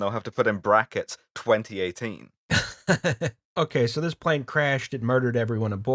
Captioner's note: laughter